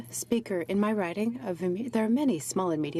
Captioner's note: speaking French